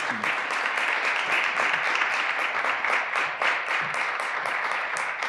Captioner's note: graduands applauding